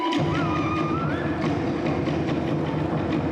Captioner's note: shouts